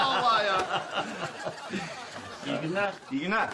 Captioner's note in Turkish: Gülme sesleri